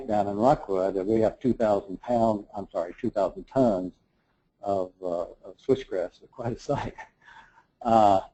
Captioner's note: laugh